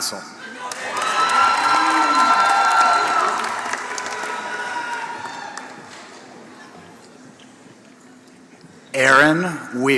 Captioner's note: applause